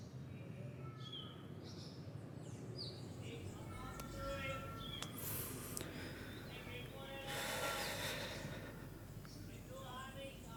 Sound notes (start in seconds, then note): 3.6 scrap dealer crying